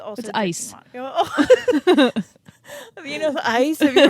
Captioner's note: both laughing